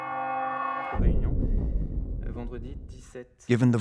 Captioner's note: speaking French